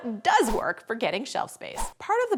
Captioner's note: swish sound effect